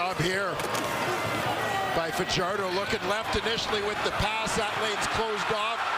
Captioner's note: crowd Noise